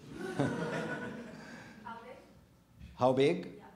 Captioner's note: audience laughing